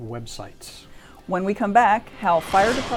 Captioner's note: whooshing